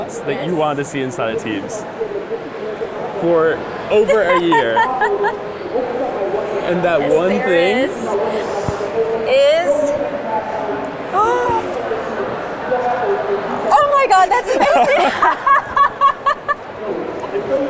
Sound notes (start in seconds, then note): 3.9 laughs; 10.0 gasps; 14.4 laughs